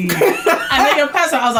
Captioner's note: laughs